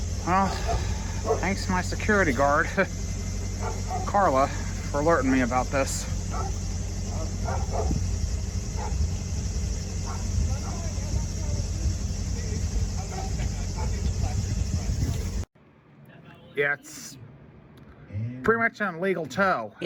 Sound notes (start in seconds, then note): 6.2 indistinct chatter and dog barking loud